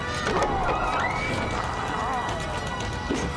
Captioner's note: door opening; roaring